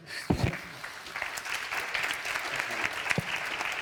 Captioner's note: audience applauding